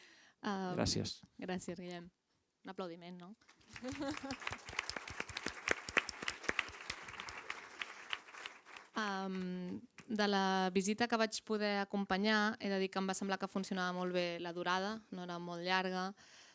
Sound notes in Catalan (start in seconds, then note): 3.5 Aplaudeixen